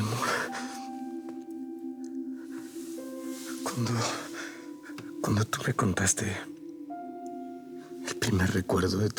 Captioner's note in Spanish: en voz baja